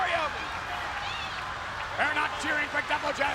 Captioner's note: audience cheering